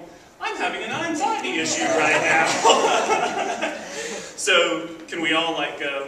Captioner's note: laughs